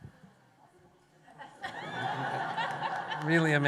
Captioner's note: laughter